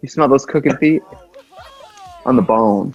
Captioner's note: laughs; upbeat music